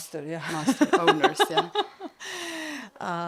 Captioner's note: laugh